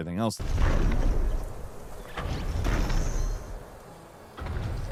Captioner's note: footsteps pounding